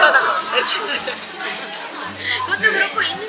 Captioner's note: laughing